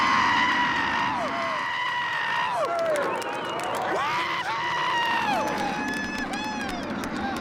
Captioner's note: man cheers wildly; men cheering